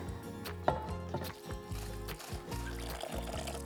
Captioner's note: none